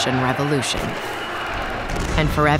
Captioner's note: film whirring